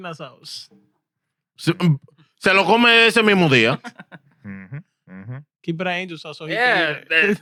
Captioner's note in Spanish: Hablando en idioma extranjero